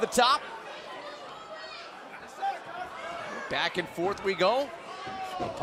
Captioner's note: crowd chatter